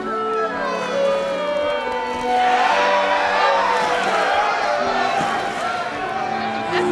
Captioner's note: cheering